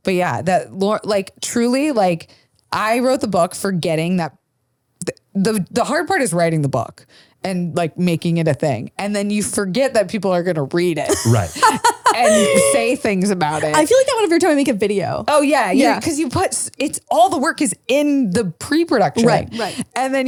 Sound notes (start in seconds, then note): 11.0 laughs